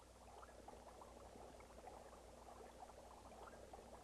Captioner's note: liquid bubbling